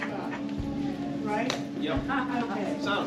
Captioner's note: laughing